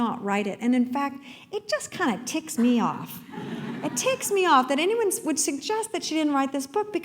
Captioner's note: laughter